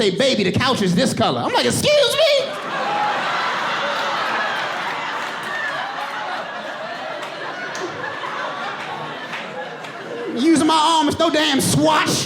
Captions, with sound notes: Using my arm, it's no damn swatch. [AUDIENCE LAUGHING]